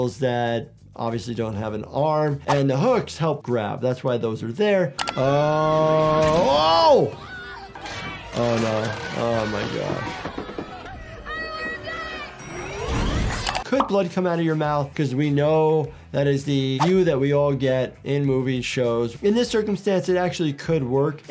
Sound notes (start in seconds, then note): 7.1 Nora shrieks; 12.3 elevator pings